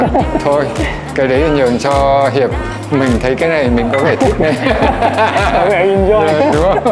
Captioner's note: laugh